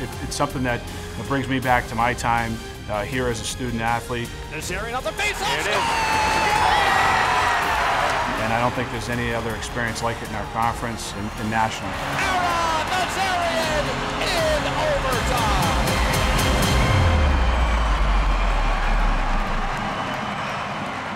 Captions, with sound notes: It's something that brings me back to my time here as a student athlete. Nazarian off the face and score! [CHEERING] And I don't think there's any other experience like it in our conference in national! Ara Nazarian in overtime! [CHEERING]